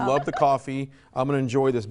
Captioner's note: laughs